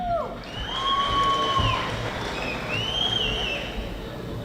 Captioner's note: audience applauding